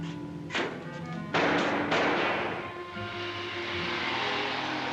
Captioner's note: gunshots; car accelerates away